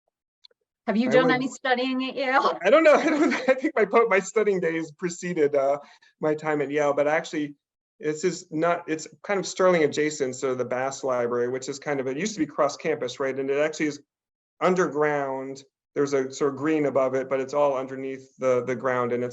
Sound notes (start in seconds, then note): 2.4 laughs